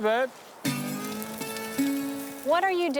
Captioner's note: fire crackles